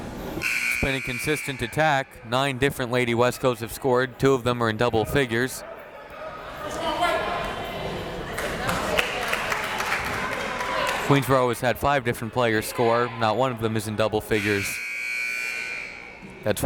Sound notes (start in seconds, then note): 0.4 buzzer ringing; 8.2 crowd clapping; 14.3 buzzer ringing